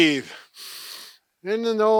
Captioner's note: inhales loudly